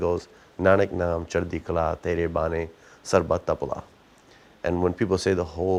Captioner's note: speaking foreign language